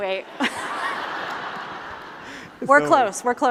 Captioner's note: laughter